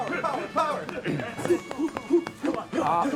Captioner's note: clearing throat